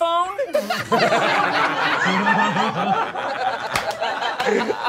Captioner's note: all laughing